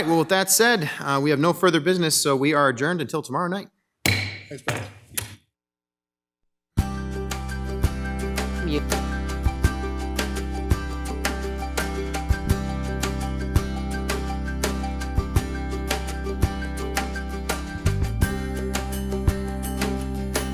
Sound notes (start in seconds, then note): 4.0 gavel hits; 5.3 light music